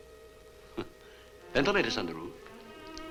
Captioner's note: chuckles